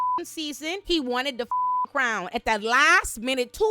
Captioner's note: beep